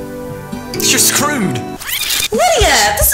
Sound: rewind sound effect

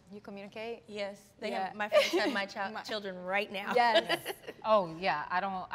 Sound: laughs

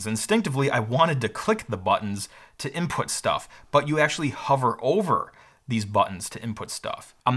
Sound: none

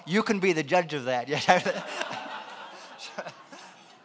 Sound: laughing

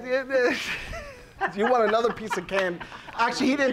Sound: laughing

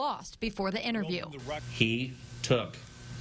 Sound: spanish

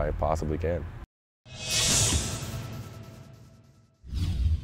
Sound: sound effect

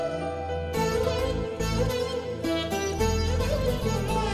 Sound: none

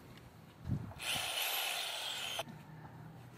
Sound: drill noise

